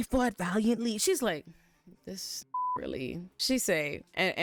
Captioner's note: beep